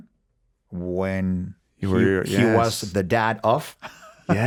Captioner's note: laughs